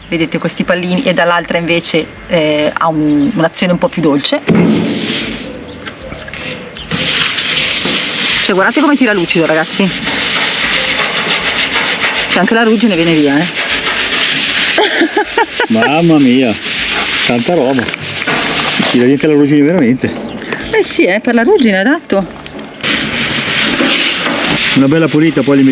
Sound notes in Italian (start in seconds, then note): 14.6 risate